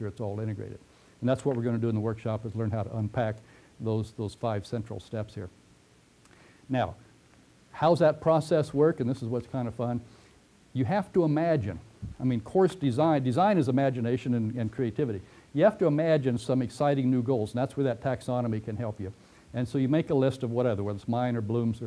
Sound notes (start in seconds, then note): 6.4 pause